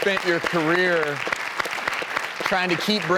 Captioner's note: audience clapping